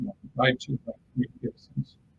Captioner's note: distortion muffles speaker